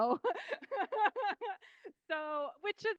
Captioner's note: laughing